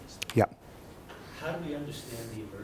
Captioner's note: voiceover